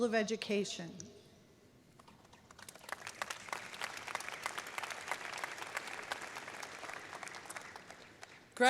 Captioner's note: applause